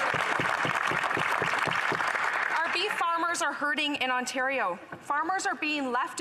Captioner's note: some Applause